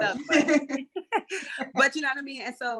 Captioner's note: laughter